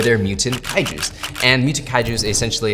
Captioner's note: camera shutter clicking